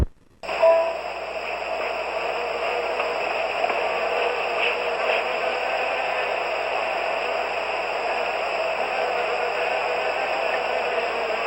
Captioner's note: applause